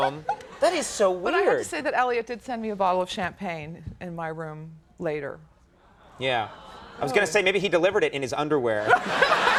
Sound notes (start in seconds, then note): 6.4 audience awwing